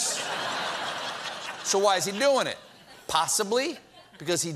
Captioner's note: laughter